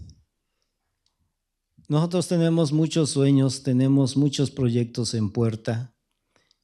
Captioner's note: speaking spanish